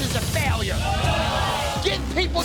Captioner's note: patrons yell